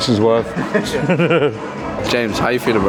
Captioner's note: chuckling